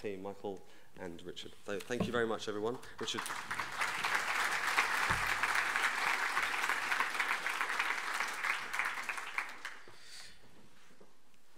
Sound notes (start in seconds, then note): 3.0 audience applauding